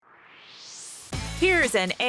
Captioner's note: swoosh